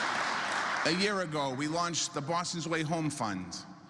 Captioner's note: applause